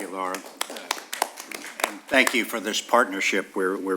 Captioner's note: applause